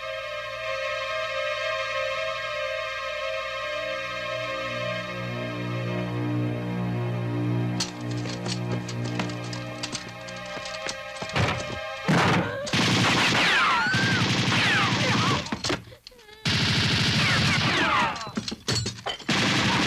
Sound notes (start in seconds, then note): 12.0 gunshots; 14.7 girl sobs